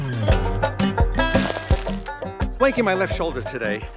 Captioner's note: funky music; footstep crunches